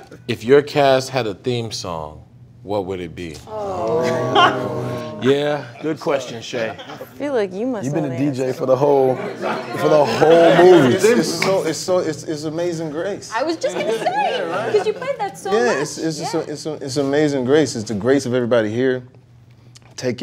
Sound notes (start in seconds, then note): 3.4 groans